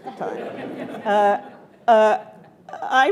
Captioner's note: attendees laughing